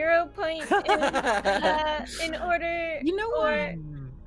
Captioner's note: laughs